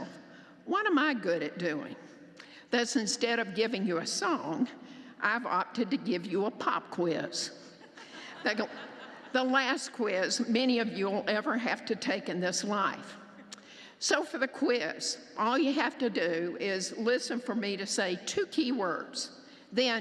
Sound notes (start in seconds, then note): 7.8 laughter